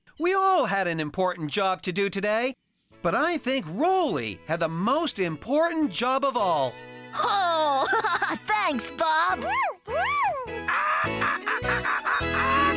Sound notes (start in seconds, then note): 7.2 laughing